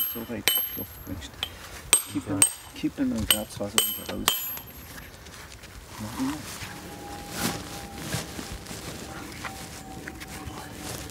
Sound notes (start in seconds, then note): 1.8 chiselling